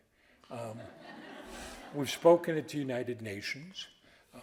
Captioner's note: audience laughing